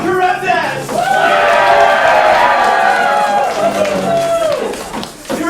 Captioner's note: loud, raucous applause and cheers